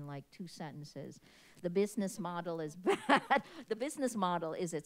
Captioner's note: chuckles